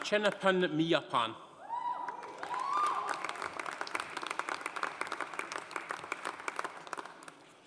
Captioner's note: audience cheering; audience applauding